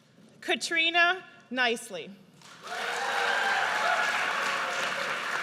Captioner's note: audience cheers